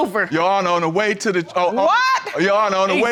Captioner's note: shouts